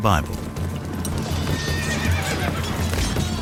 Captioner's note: hoofbeats thudding, horse neighing